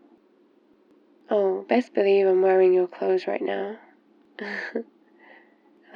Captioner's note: laughs